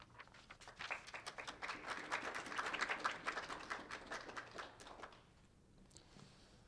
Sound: applause

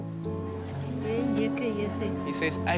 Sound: speaking foreign language

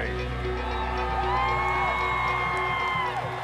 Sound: fans cheering

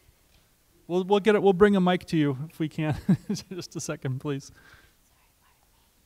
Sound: laughs

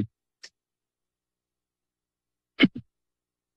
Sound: silence

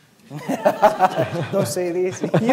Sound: laughter

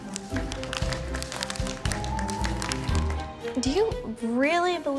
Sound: students clapping

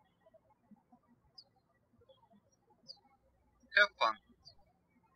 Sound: birds chirping

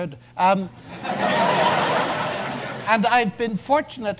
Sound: audience laughs

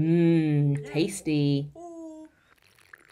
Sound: slurping tea sounds

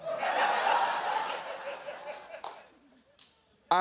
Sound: laughter

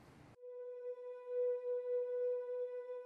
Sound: high-pitched droning

